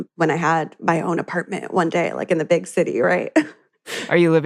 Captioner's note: chuckles